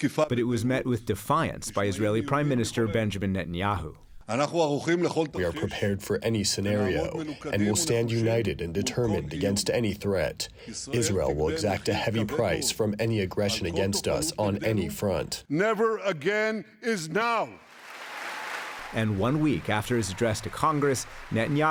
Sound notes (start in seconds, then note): 5.8 through translator; 17.6 applause; 17.6 cheering